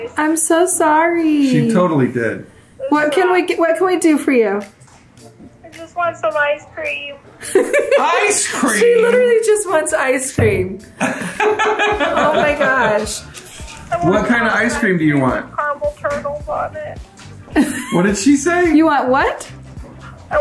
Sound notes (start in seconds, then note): 7.4 laughs; 11.0 laughing